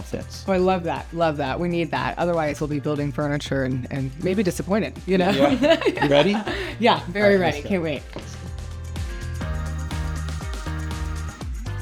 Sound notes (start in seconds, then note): 5.2 laughs; 8.7 upbeat music